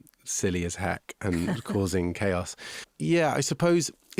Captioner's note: interviewer laughing